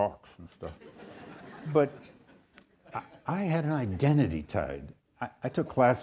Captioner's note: audience chuckles